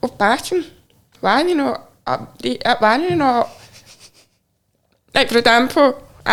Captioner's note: chuckling